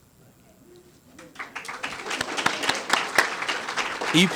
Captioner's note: applause